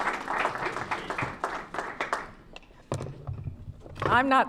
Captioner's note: applause